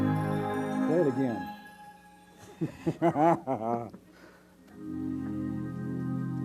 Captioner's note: laughing